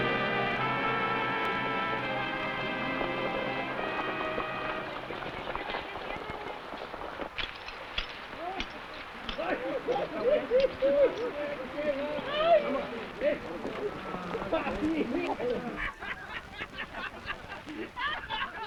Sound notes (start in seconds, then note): 3.3 horse hooves pattering; 9.4 men shouting; 9.4 men laughing